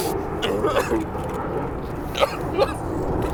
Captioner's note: crying